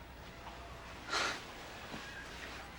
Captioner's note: valerie sighs